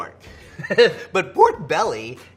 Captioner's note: laughing